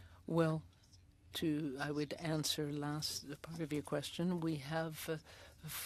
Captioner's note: speaking French